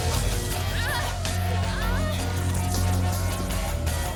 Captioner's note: energetic rock music; women moaning